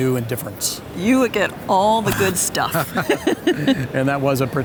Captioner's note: laughs